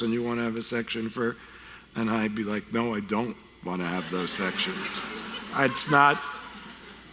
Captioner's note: audience laughter